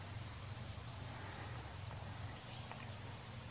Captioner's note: water falling